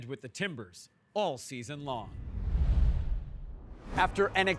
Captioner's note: logo whooshing